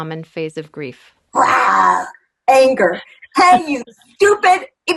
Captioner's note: roaring sound